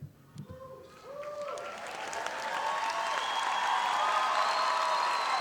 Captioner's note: audience applauding